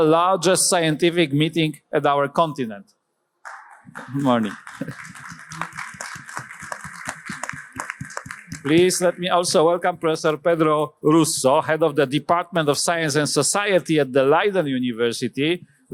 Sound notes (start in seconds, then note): 3.4 applause